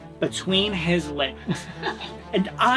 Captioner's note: laughing